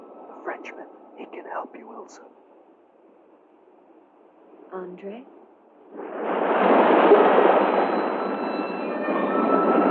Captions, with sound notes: The Frenchman, he can help you, Ilsa. André? [waves crashing]